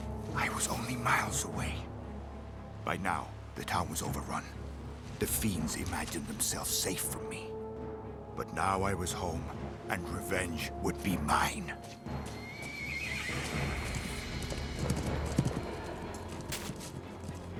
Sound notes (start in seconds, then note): 12.2 horse whinnies